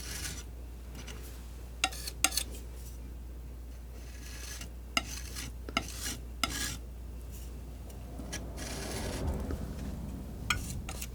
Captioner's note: metal scraping